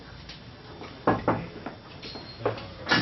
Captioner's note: knock on the door